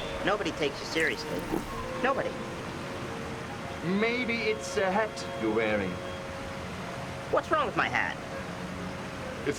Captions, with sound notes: - Nobody takes you seriously. Nobody. (water running) (serene orchestral music) - Maybe it's the hat you're wearing. - What's wrong with my hat? - It's too close to the ground.